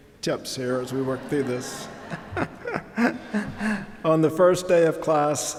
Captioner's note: audience laughing